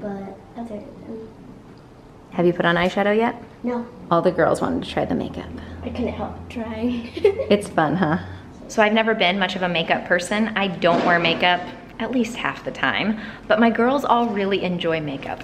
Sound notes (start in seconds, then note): 6.9 giggles